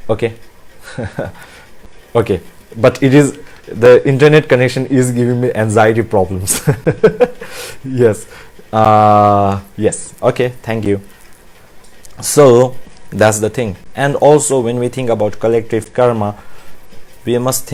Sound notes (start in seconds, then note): 6.5 laughs